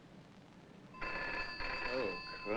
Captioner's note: phone ringing